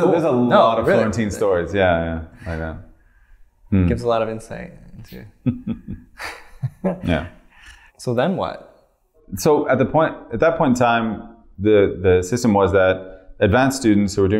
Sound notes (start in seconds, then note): 5.2 chuckles